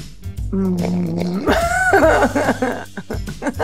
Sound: snoring sound; Gal laughs

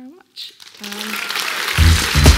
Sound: audience applauding; energetic music

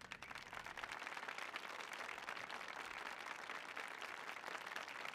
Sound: applause

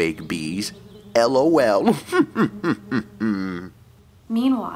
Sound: Toad chuckles

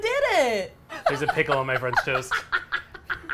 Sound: laughs

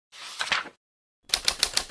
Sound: page flips

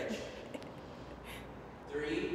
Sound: giggles

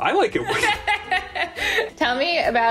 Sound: laughs

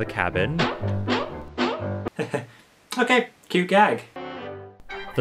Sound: chuckles

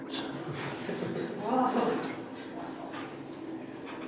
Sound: audience laughing

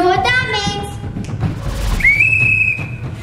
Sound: snaps fingers; blowing whistle

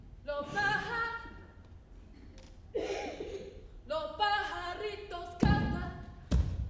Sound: feet thumps; sings in foreign language

